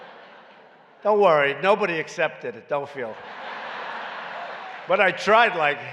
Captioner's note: laughter